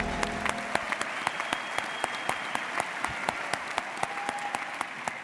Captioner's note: audience cheering and applauding